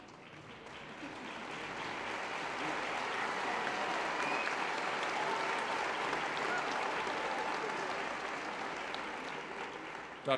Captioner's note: applause